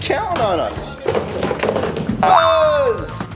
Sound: rumbling down slide

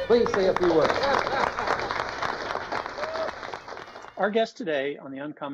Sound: applause

